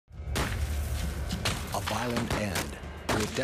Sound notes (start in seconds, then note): 0.4 guns firing; 1.9 voiceover